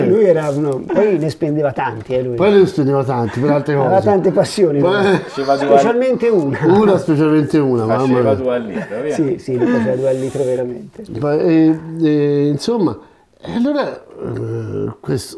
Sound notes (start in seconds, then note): 11.2 laughts